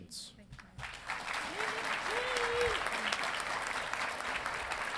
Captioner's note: audience applauding